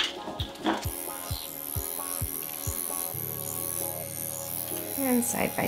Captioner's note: machine vibrating